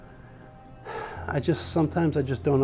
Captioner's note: heavily sighs